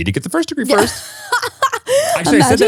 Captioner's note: laughs